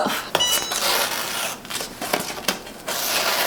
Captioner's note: press beeping; transfer ripping